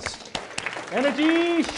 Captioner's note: applause